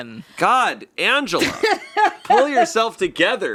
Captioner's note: laughing